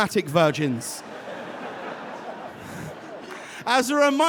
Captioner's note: audience laughing